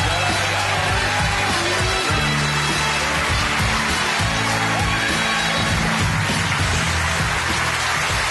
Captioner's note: applause and Cheers